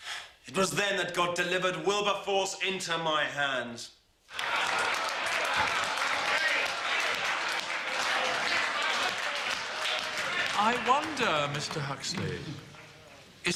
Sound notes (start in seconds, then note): 4.8 applause